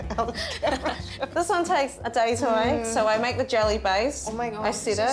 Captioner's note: all laugh